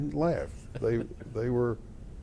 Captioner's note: laughter